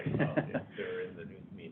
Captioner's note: laughs